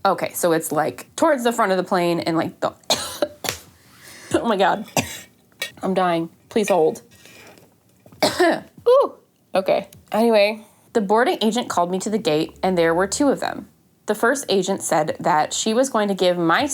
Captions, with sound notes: Okay, so it's like towards the front of the plane and like the *coughing fit* oh my god i'm dying, please hold Okay, anyway